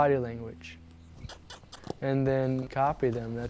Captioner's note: squeaky kisses